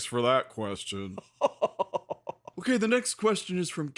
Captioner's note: Phasma laughs her usual evil laugh